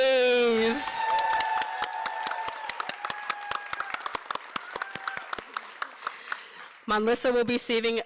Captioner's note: applause